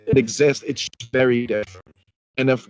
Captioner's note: speech distorting